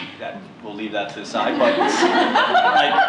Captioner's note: laughter